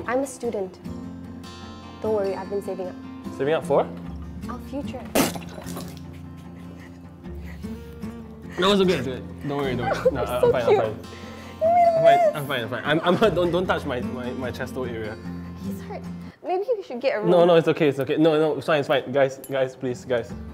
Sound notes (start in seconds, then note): 5.0 spits water; 7.3 chuckles